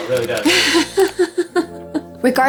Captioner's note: laughs